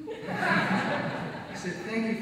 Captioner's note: audience laughs